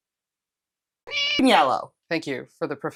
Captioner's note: meow